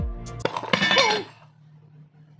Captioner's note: sound of a falling tin lid